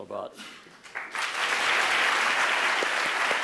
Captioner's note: applause